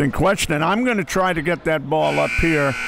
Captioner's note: clock buzzes